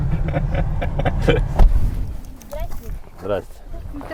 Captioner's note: laughing